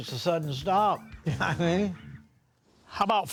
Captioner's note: laughs